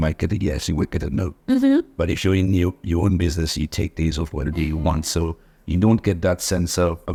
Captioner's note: laughs